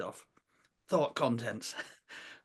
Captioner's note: laughs